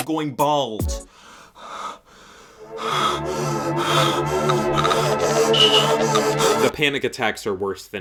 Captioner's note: heavy breathing